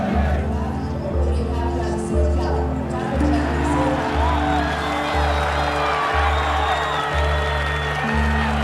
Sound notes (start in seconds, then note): 0.1 speaking in Burmese; 2.8 people cheering and sounds of clapping